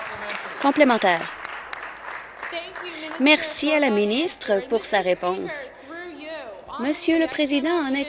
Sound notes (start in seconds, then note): 1.7 applause